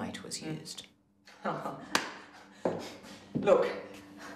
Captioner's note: laughing